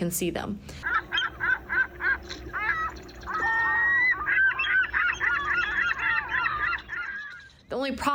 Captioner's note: seagulls chirping